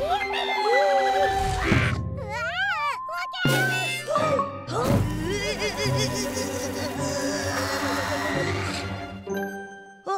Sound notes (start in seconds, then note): 4.1 Antwon gasps; 4.1 June crashes; 6.1 Antwon grunts